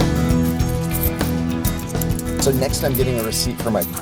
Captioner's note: coins jingling